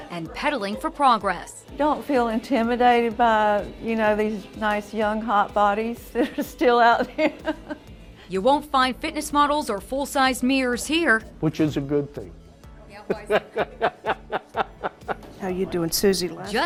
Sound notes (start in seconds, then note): 7.6 laughing; 13.2 laughing